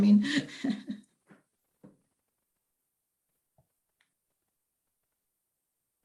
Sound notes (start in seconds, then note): 0.2 chuckling lightly